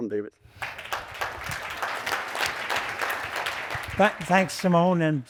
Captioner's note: audience applauding